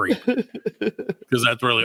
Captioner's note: laughing